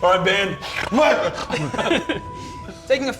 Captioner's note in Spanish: Sonidos de ronquidos